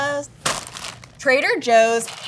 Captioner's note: plastic crinkling